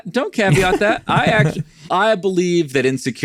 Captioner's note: laughing